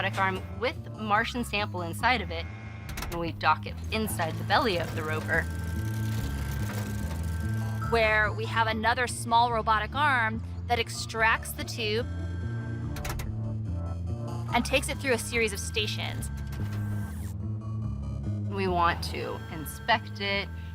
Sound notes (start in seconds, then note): 5.4 whirring; 11.8 whirring